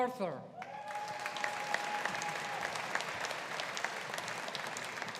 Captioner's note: audience applauding